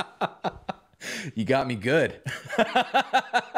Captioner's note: laughter